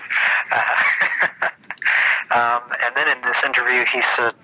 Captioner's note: both laughing